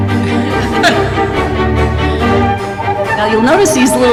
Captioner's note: laughter